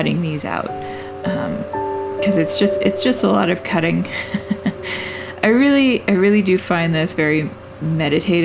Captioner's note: laugh